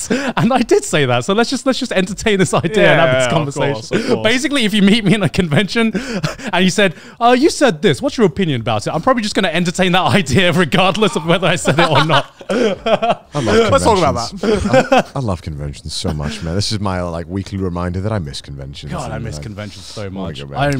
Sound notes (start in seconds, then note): 12.7 laughing